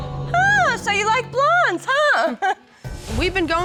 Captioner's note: chuckles